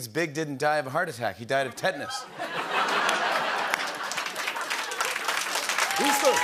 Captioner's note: laughter